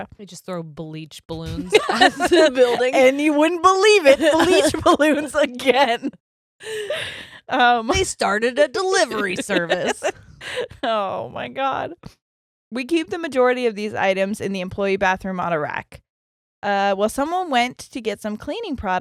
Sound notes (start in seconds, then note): 1.6 both laughing; 6.6 both laughing; 8.8 laughing